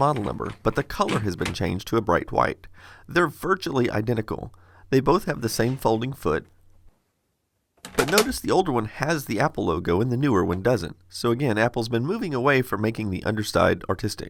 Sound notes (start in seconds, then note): 7.8 clatters